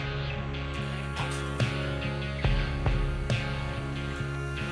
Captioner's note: machine buzzing